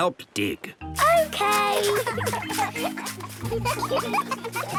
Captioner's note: giggling